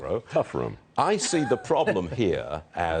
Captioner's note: laughter